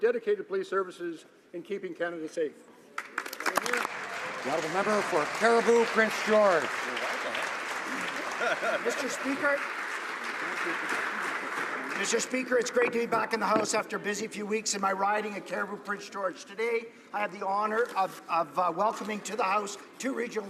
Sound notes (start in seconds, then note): 12.6 some Applause